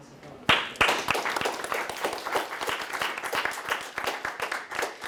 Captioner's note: audience applauding